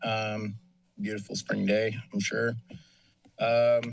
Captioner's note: none